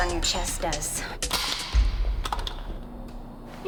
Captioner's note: gun clicks